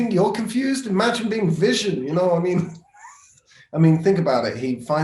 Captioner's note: chuckles